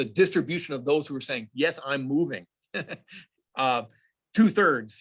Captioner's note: laughs